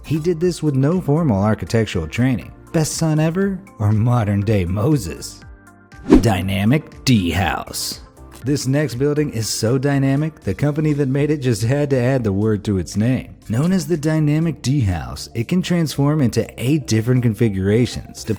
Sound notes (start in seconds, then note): 6.0 graphic whooshing